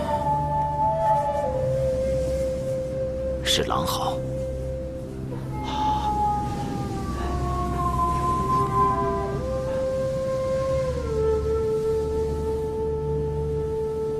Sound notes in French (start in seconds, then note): 3.5 hurlement de loup